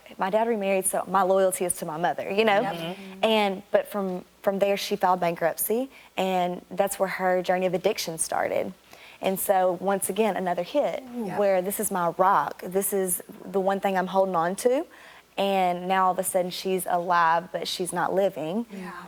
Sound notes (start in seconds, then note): 2.5 all voice agreement